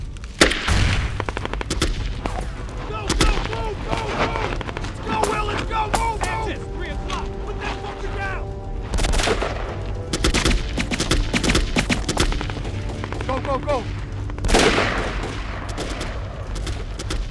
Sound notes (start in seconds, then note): 8.9 guns firing; 14.6 guns firing